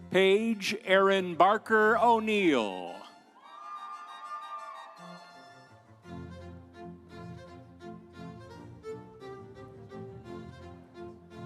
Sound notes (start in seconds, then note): 3.4 audience cheering; 3.8 instrumental music